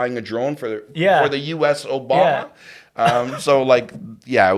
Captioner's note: laughs